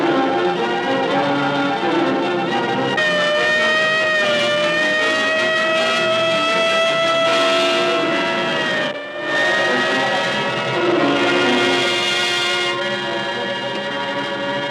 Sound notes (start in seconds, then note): 3.2 siren wailing